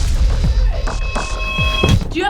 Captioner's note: donald's muffled scream